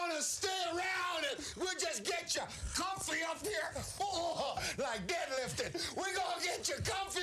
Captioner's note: laugh